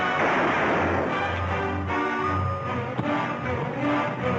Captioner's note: gun firing